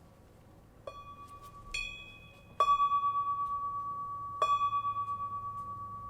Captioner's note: bell chimes gently ringing